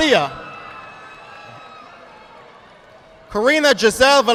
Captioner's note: audience applauding